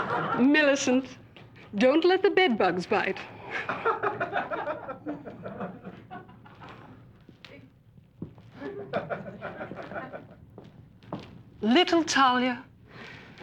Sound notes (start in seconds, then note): 0.0 audience laughs; 3.5 light audience laughter